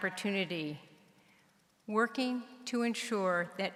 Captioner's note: none